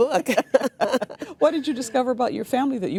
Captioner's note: laughing